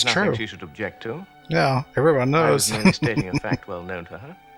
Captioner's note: laughing